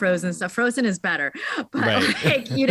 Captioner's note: laughing